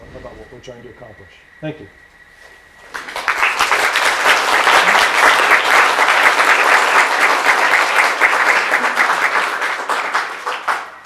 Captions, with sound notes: about what we're trying to accomplish. Thank you. (applause)